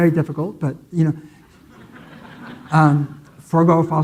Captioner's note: audience laughing